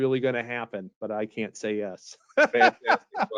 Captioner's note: laughing